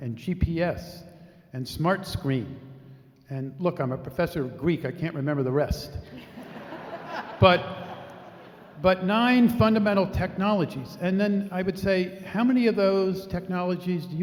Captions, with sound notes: and GPS, and smart screen. And look, I'm a professor of Greek. I can't remember the rest. (laughing) But nine fundamental technologies. And then I would say, how many of those technologies